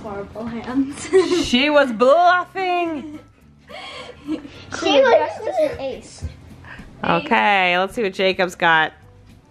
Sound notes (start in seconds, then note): 3.7 laughs